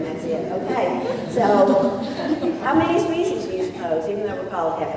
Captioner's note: laughter